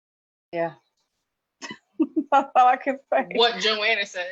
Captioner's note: laughs